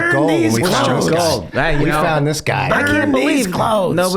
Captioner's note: mimicking Danny